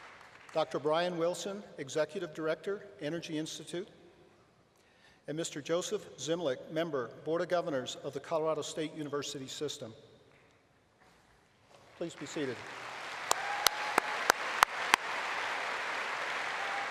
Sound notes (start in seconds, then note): 14.8 applause